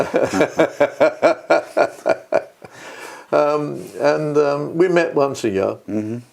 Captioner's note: laugh